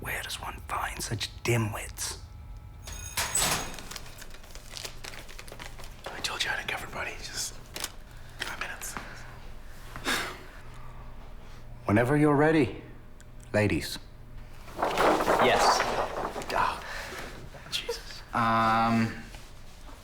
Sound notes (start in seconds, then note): 2.9 school Bell Rings